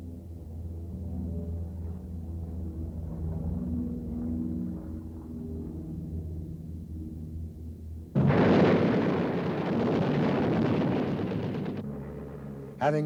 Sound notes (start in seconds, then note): 4.2 propellor continues buzzing; 8.2 gun blasts; 11.8 propellor buzzes